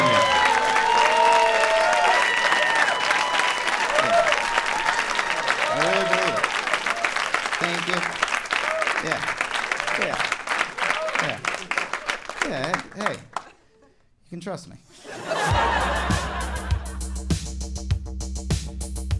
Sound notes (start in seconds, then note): 0.2 audience applauding and cheering; 10.2 applause continues; 14.9 audience laughing; 15.5 upbeat synth music